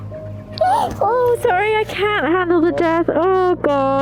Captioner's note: gasps